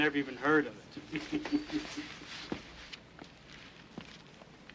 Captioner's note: men chuckling